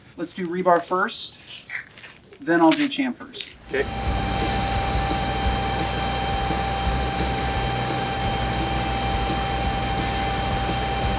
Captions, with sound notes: Let's do rebar first. Then I'll do chamfers. [Upbeat Music] [Machinery in Background]